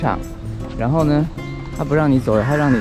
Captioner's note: cars and motorcycles